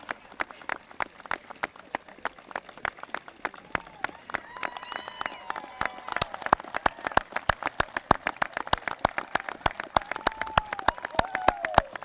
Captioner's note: applause